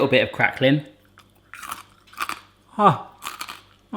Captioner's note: crunching